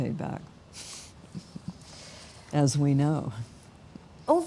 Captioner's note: laughing